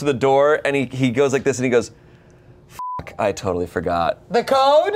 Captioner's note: beep